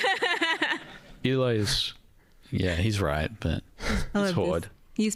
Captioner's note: laughing